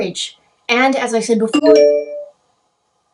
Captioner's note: notification sound